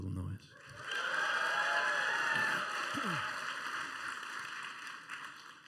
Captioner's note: cheering and applause